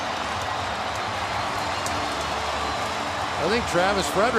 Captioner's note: cheering